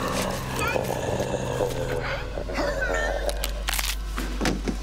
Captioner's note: mummy growling; man choking; neck snapping; body thudding